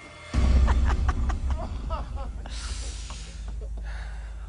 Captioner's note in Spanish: Risas